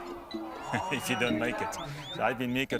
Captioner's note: laughs